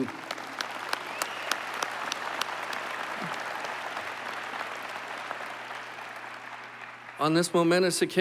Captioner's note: applause